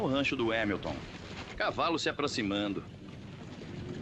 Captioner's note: horses approaching